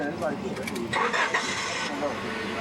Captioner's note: engine starts